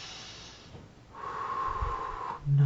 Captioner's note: inhales and exhales